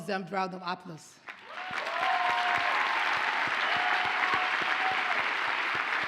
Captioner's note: audience cheers and applauds